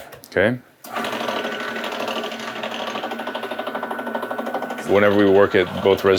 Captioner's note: pasta machine clanging